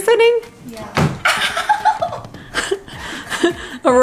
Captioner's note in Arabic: تضحك